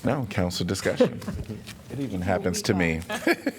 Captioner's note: laughter